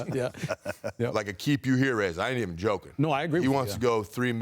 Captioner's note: laughter